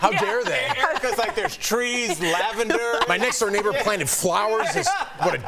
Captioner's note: laughter